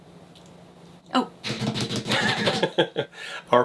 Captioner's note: drumming fingers on table; laughs